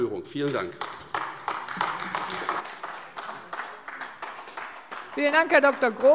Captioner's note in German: Beifall AfD